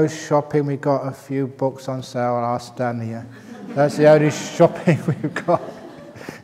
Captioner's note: laughter